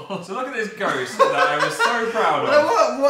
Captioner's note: laughs